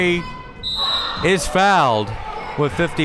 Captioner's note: whistle